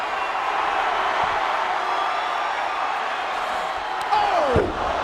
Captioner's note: audience cheering